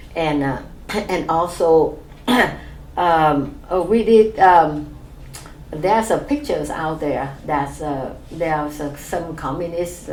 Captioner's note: clears throat